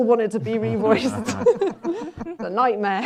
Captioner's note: laughter